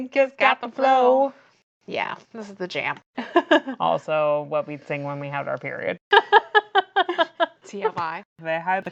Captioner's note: laughs